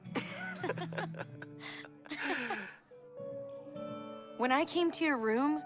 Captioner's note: both chuckles